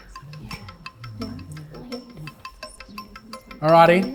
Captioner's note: teams murmuring